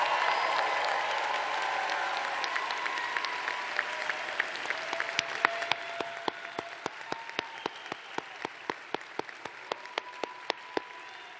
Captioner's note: applause